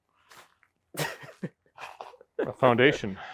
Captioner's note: speaker laughing